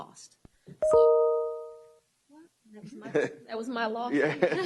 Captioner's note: phone sound